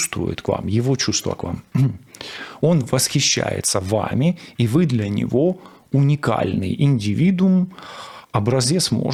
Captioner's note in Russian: откашливается